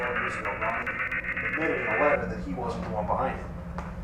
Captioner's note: buzzing